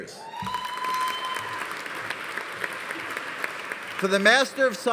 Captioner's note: audience cheering; audience applauding